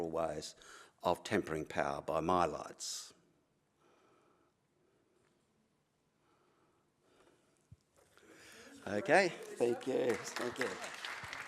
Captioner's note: applause